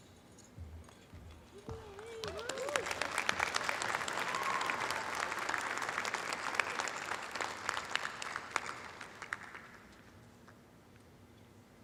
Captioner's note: applause